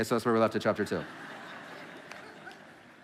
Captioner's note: congregation laughing